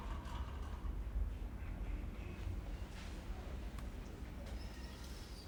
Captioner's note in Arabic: ضجيج المستشفى